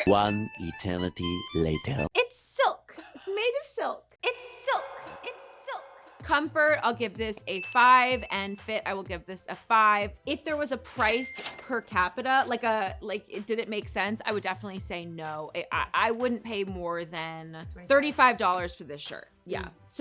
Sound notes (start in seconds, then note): 7.1 bell ringing; 10.9 cash register chiming